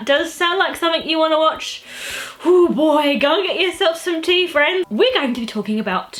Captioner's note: exhale